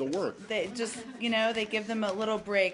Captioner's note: laughter